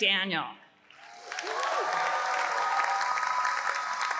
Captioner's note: applause